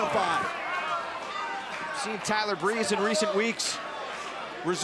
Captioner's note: crowd chatter